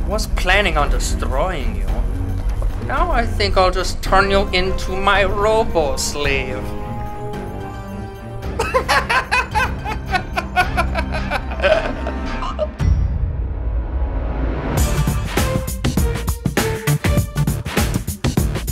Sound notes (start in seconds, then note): 8.5 evil laughter; 14.7 upbeat music